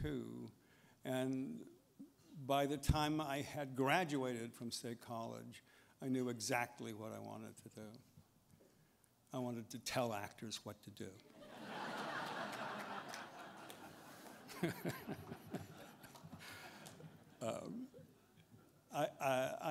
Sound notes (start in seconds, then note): 15.7 laughter